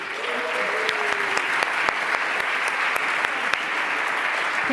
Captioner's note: applause